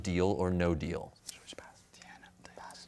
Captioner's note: whispering